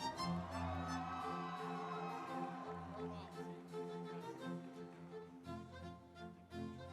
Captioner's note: audience cheering; instrumental music